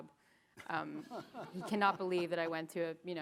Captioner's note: chuckles